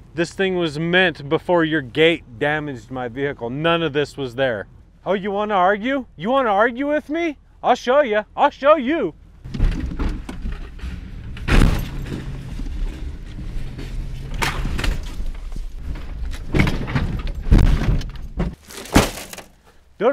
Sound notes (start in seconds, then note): 9.5 gate clattering; 11.7 post crashing; 13.8 gate clattering; 16.3 car rattling; 18.7 door thudding